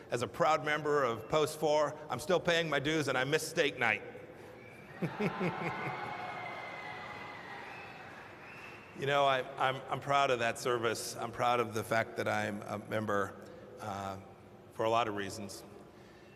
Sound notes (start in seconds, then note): 4.9 laughter and applause